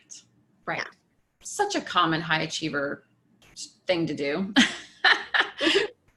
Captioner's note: laughing